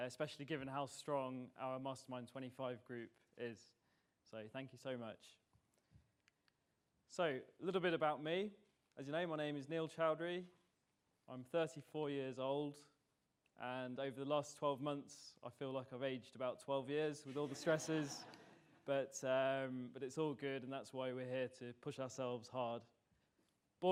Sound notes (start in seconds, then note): 17.3 audience laughs